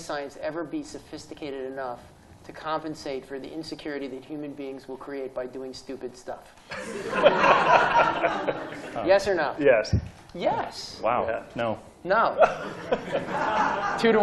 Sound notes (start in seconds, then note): 6.7 laughter